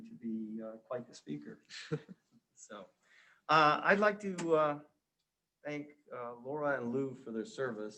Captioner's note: subtle laugh